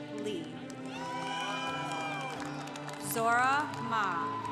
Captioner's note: congregation applauding